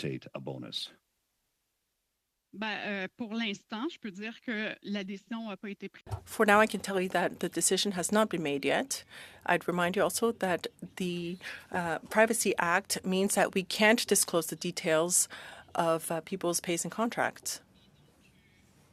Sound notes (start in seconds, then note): 9.9 speaking French